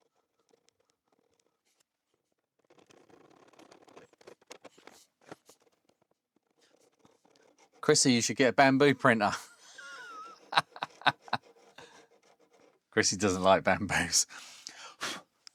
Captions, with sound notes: Chrissy, you should get a bamboo printer. (Laughs) Chrissy doesn't like bamboos.